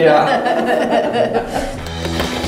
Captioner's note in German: Sie lachen; Rockige Musik